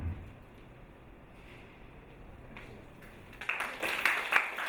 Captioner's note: loud crash echoes